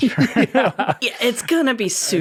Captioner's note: chuckling